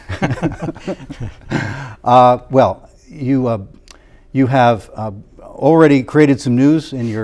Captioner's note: laughter